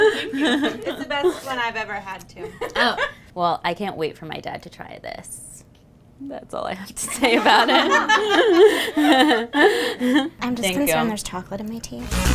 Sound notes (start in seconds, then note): 7.0 laughter